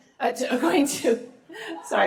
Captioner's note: laughter